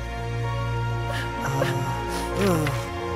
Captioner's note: dramatic orchestral music continues; Princess Oren whimpers